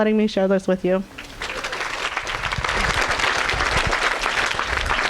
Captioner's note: audience applauding